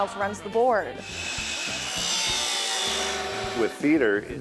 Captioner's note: tools whirring